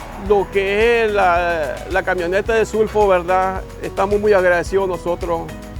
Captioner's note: speaking in Spanish